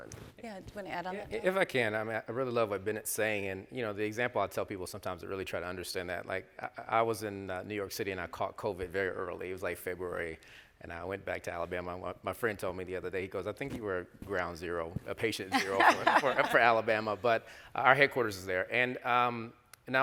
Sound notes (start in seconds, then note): 15.5 laughs